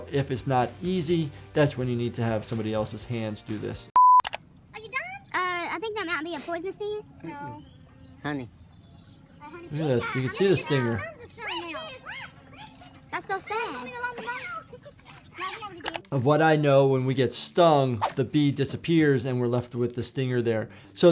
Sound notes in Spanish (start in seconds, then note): 4.2 clic; 14.1 Niños gritando débilmente; 16.0 clic